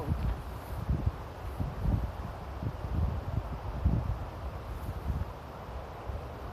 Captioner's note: wind blowing